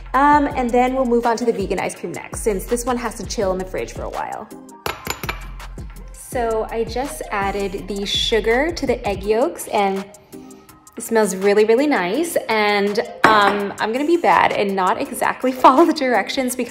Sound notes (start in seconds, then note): 4.9 egg cracks against glass; 10.0 sniffs